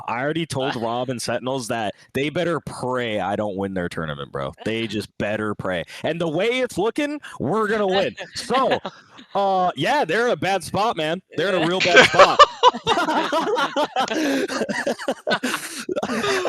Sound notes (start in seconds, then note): 7.0 laughs; 16.2 laughs